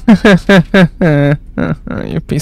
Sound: laughing nervously

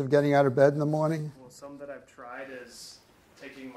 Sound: voiceover

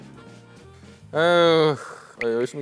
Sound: sighing

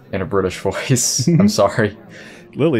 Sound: giggles

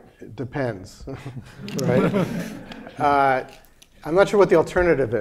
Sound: laughter

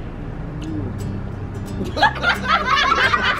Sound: kissing noise; everyone laughing

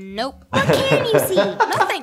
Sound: laughing

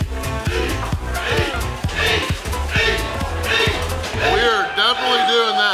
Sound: crowd chanting "eat" in unison

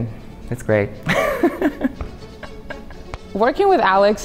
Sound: laughs

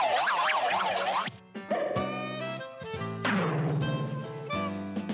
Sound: car transforming

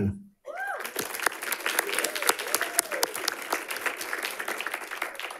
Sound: audience applauding

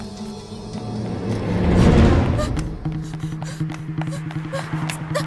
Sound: heavy breath sound

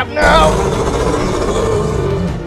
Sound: Ankylosaurus Sounds

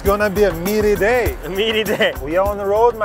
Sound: laughing

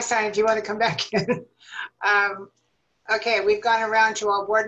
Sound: laughter

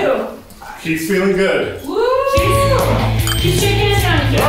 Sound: whoops

